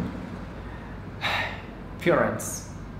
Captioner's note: sigh